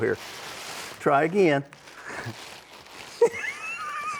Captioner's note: laughs